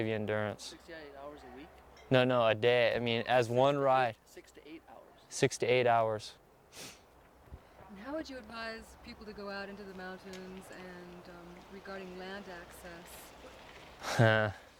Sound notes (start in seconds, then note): 14.0 laughs